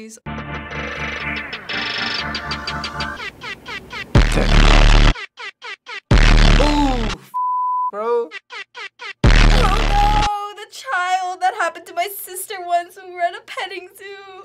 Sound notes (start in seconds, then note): 4.1 blaring music; 5.3 air horn accompaniment; 6.0 blaring music; 8.3 air horn accompaniment; 9.2 blaring music